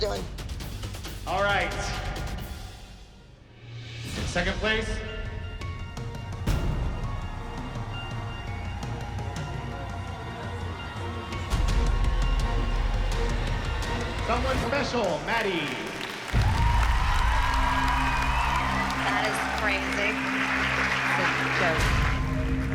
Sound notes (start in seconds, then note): 16.3 cheering